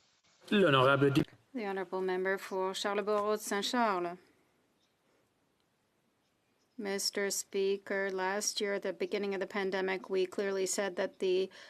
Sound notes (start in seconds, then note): 5.9 speaking French